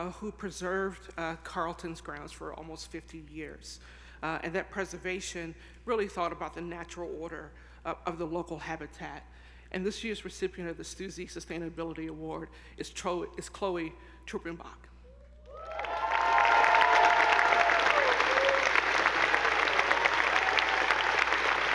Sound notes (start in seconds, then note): 15.4 audience whooping; 15.4 attendees applauding